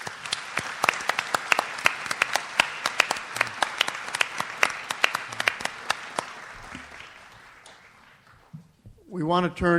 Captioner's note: audience applauds